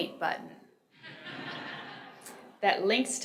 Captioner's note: audience laughs